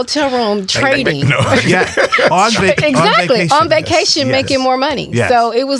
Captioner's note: all laughing